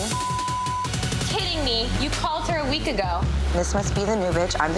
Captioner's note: beep